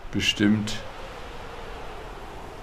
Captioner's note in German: Windrauschen